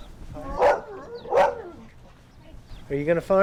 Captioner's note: dogs barking